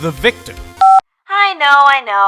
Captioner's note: beep